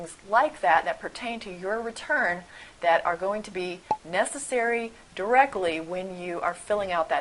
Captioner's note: pop